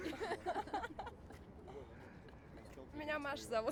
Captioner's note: laughter